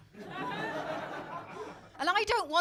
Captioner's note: crowd laughing